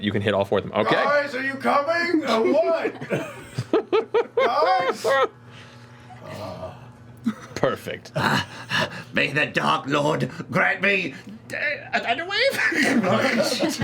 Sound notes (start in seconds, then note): 1.8 shouting